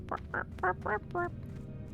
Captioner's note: barking